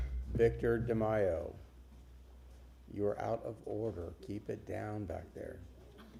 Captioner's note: sounding gavel